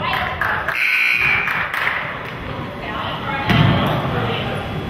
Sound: buzzer goes off

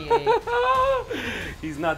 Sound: laughs

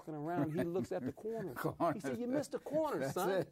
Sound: laughs

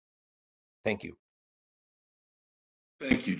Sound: A pause

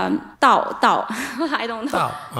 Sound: laughter

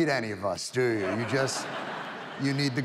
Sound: audience laughs

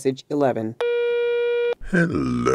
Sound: phone tone

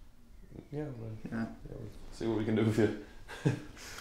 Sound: laughing

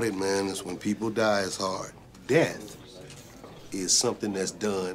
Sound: none

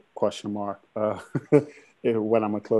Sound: laughter

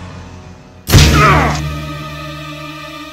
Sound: punching

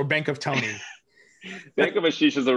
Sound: chuckles

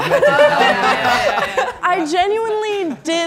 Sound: all laughing

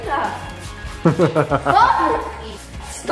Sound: chuckles

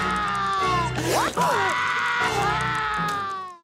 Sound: screaming, crying

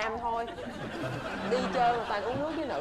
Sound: laughing

